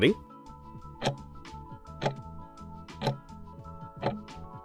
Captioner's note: timer ticking